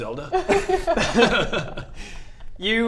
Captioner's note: keen laughter